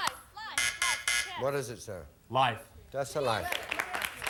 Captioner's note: buzzer sounds